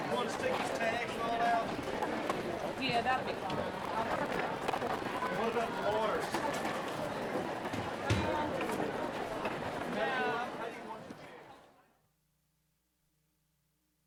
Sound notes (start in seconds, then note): 7.6 chatter; 11.8 silence